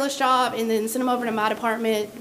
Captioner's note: none